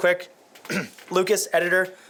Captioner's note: clearing throat